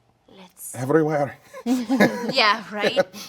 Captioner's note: laughs